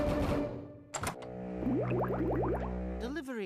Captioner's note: gurgling